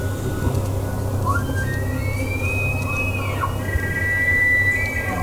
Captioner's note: multiple elk bugling